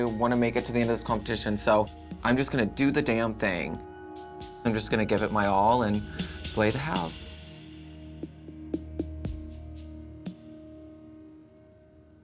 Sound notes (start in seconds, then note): 9.4 muted lip syncing